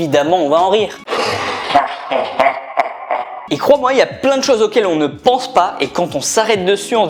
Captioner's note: demonic laughter